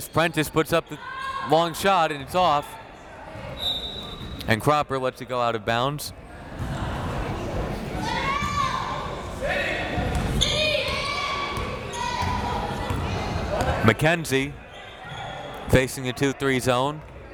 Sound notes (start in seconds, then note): 3.6 whistle tweeting; 7.9 crowd members shouting